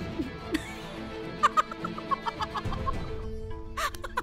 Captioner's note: Bursts into laughter